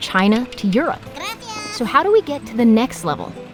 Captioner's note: squeaky voice